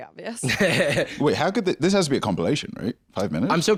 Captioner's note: laughs